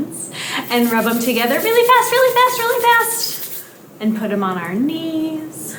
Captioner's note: hands rubbing together